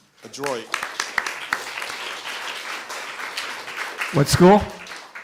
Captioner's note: applause